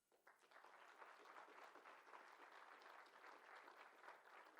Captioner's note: applause